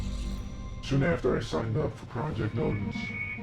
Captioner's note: disguised voice